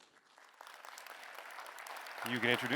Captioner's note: applause